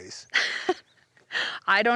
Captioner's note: laugh